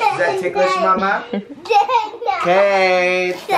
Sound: laughs

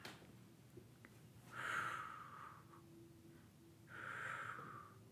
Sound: breathing

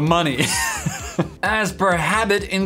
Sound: laughs

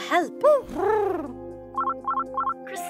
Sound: Huti hoots; phone rings

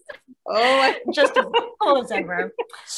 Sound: laughing

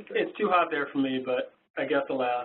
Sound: voiceover

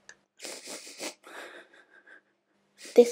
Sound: Minnie sobs

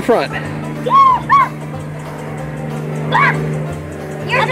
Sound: yelling

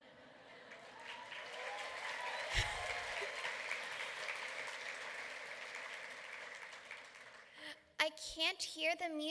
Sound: clapping

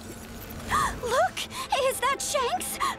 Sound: gasping

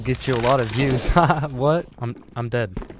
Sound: laughs

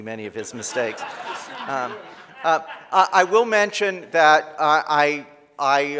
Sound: laughter

